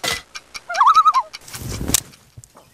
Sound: loon call

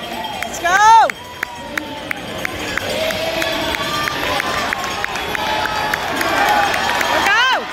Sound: cheers and applause from crowd

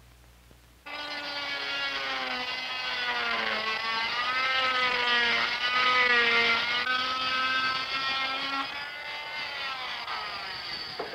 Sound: buzzsaw

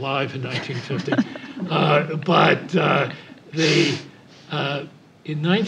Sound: laugh

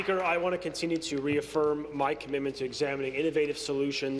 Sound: applause

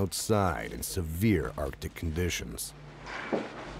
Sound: voiceover

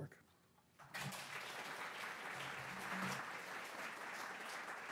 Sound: audience applauding

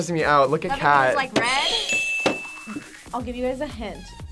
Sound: bell rings

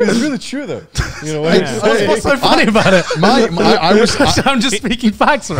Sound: group chattering

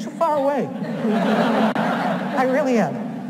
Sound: audience laughs

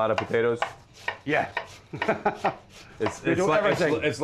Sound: laughs

